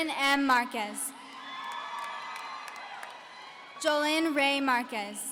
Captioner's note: audience cheering